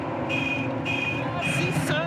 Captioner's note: car horn honking; speaking in foreign language